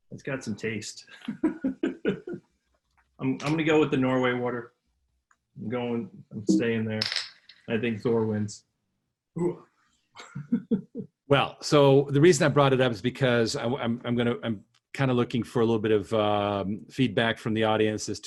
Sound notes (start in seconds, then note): 1.1 laughs; 10.2 laughs